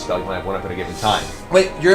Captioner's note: none